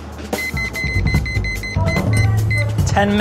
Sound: alarm timer beeps

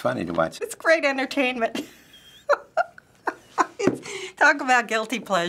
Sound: laughing

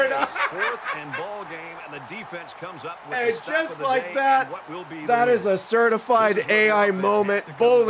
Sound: laughs

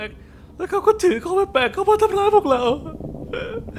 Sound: sob

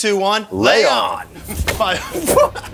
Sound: giggling, armor jingling

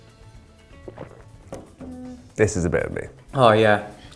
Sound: glugs

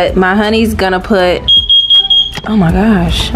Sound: loud beeping sound

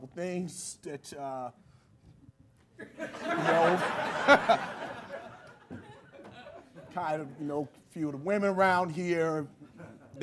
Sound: laughter

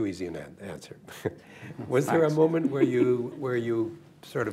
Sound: laughter; chuckles; laughs

